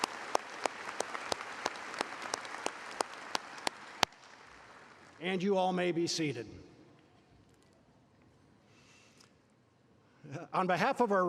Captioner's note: applause